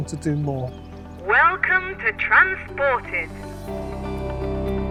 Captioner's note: megaphone speaking